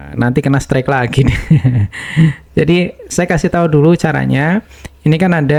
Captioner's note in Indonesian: tertawa